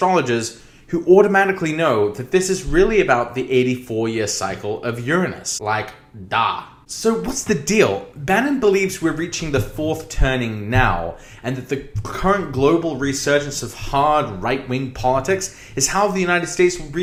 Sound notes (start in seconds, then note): none